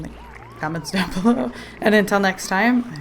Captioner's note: laughs